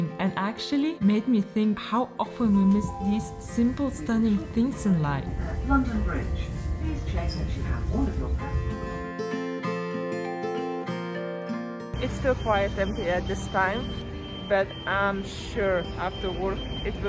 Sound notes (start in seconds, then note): 5.3 train announcement